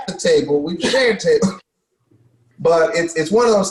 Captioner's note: coughs